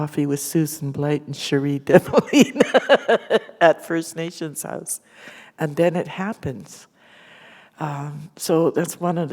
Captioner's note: laughter